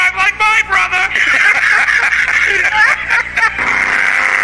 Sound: both laughing; horns honking; engine revving

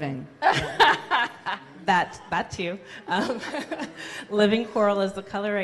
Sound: laughs

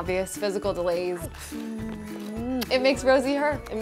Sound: loud kiss

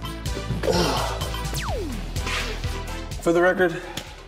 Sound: huffs; counter beeps

